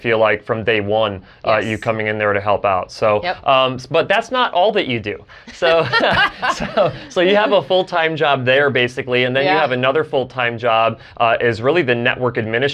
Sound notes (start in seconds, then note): 5.4 both laugh